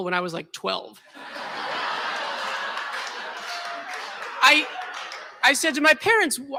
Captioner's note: laughter